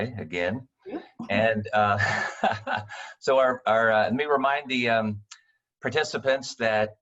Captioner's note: laughing